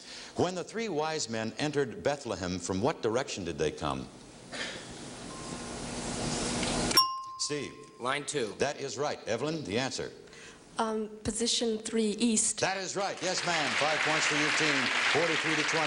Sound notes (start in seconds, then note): 6.9 ringing bell; 15.6 audience clapping